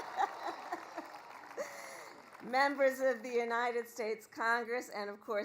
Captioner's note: laughs; applause